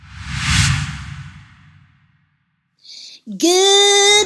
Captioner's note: transition whooshing